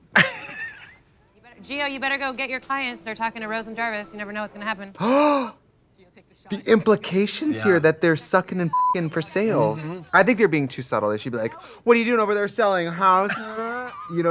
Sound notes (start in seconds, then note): 0.1 Katya laughs; 5.0 Trixie gasps; 8.7 beep